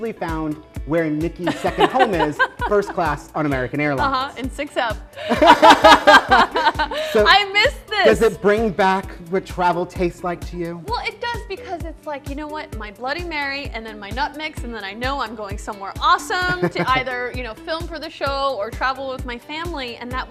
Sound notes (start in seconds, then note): 1.4 laughs; 5.2 laughter; 16.4 laughs